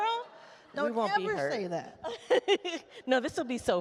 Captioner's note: laughs